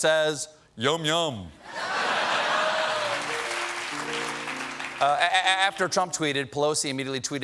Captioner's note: laughter